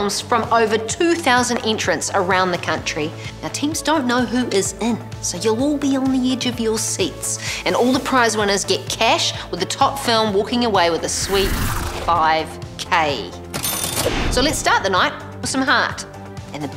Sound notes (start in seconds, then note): 13.8 bell register rings